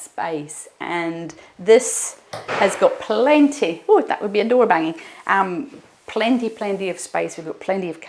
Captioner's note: door bangs